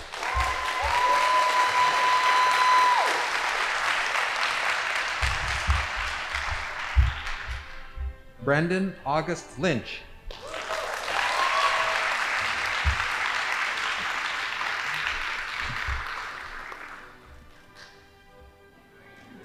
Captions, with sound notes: (audience applauding) Brendan August Lynch. (audience applauding) (band playing)